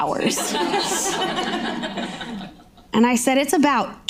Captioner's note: audience laughing